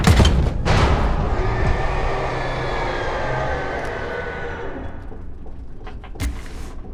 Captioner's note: screaming